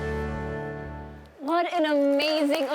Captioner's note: applause